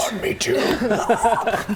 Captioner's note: hrrgh